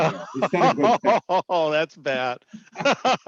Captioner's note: laughing